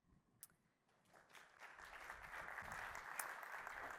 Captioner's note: applause